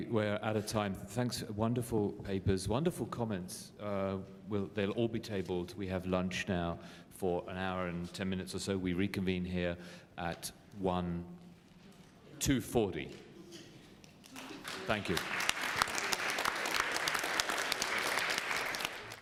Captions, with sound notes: We're out of time. Wonderful papers. Wonderful comments. They'll all be tabled. We have lunch now for an hour and 10 minutes or so. We reconvene here at 2:40. Thank you. [APPLAUSE]